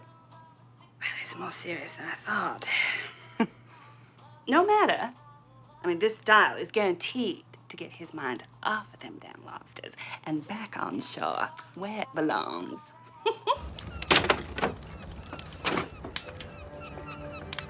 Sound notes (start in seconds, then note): 13.0 giggling; 15.2 seagulls cawing